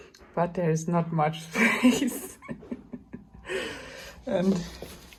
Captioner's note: laughs